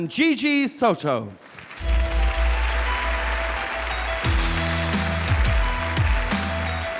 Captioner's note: audience applauding; upbeat music